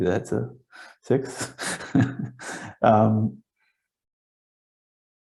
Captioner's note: laughs